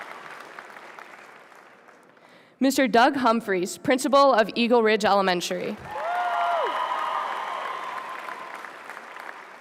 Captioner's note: applause